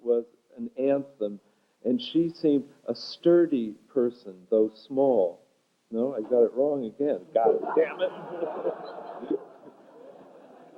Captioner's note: laughter